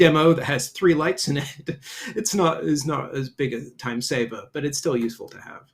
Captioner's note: chuckles